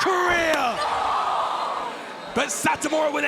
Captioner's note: crowd gasps